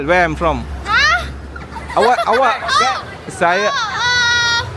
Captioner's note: laugh